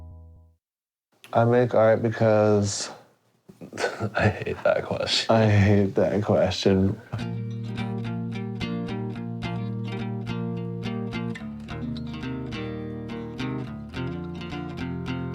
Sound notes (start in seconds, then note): 3.5 laughs